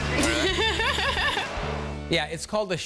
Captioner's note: laughing